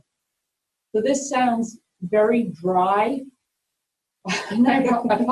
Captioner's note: chuckles